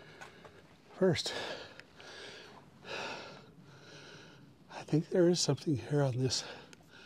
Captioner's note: catching my breath